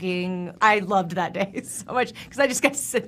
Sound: laughing

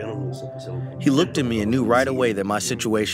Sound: through translator

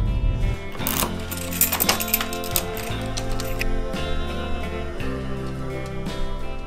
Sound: keys jingling; key clacking

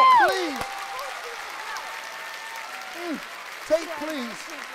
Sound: cheering

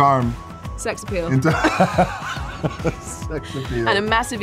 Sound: laughing

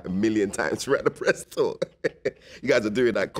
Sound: chuckles

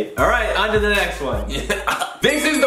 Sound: coughing

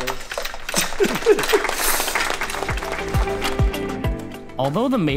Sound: applause; laughing

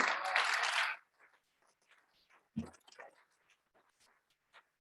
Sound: audience clapping

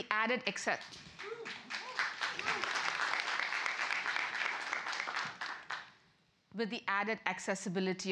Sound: applause

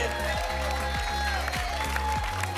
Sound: applause and cheering

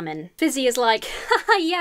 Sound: imitates laughter

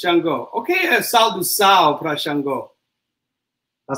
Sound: speaks portuguese

